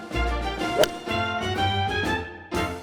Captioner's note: jaunty music; golf club striking golf ball